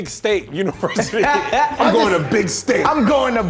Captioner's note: all laughing